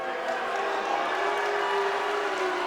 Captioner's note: cheers & boos